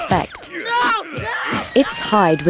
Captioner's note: screaming